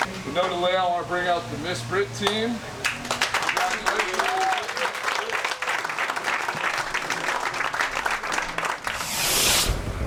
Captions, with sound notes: - You know the layout, I want to bring out the Miss Brit team. (applause) Congratulations.